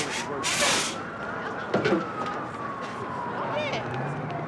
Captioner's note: sirens blaring